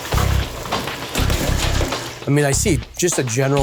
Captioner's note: fryer bubbling